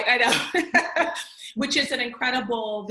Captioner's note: laughs